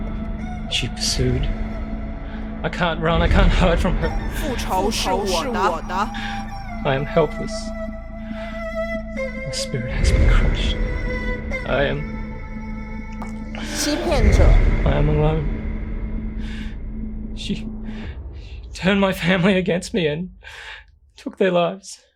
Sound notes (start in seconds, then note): 5.7 Mandarin language; 14.2 Mandarin language; 16.5 Zheng Wei nervous breath